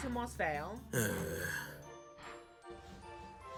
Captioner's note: groans